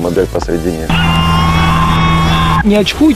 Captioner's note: screaming. having fun